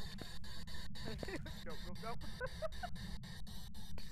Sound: laughs

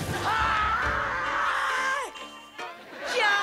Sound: screaming

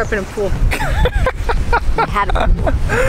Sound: both laughing

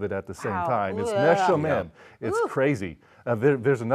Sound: speaking foreign language

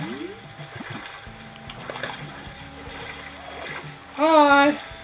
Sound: button noises

